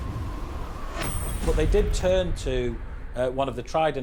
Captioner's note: blustery wind blowing